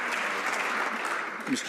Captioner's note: some Applause